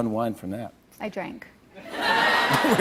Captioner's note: laughter